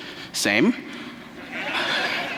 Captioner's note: laughter